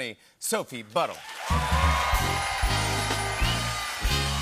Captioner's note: cheers and applause